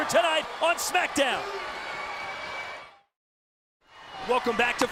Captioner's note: crowd cheering